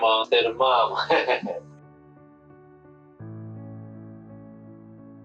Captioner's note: chuckling; uplifting music